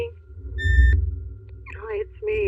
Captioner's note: answeng machine beeps